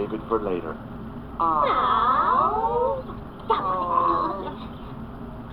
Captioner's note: hemming and hawing